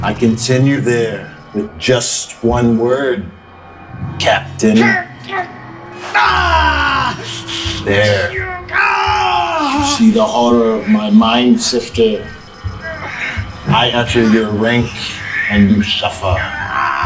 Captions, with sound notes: I can send you there with just one word...Captain... [screams] There, you see the horror of my mind-sifter. I utter your rank, and you suffer.